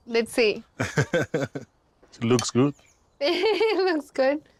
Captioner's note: laughs; laughs